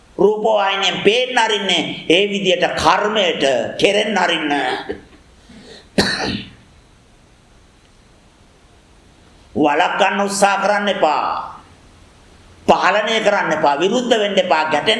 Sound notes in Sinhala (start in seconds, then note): 5.5 උගුර කෑරීම